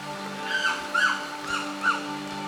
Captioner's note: monkey calling